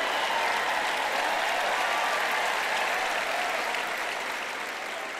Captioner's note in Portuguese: audiência aplaude